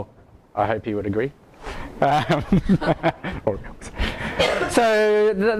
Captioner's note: laughs